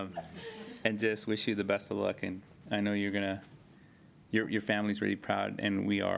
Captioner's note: laughter